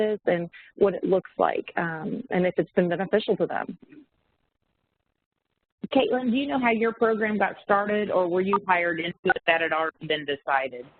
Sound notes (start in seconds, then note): 8.6 audio warps